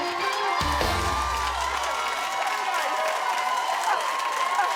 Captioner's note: cheering